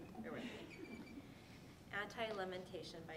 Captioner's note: audience laughing